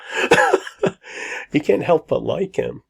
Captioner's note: laughs